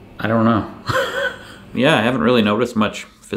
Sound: laughs

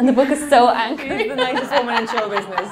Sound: laughing

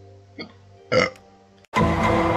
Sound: burp

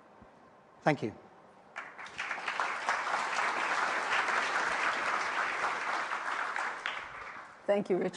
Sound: applause

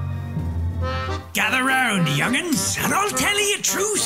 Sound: sea shanty voice

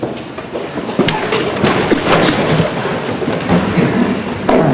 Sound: chairs rustling

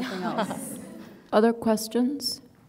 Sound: audience laughing

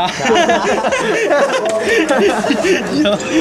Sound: haha

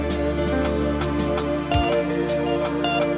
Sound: ding

